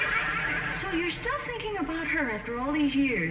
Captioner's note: audience laughing